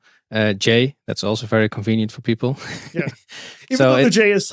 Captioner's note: chuckles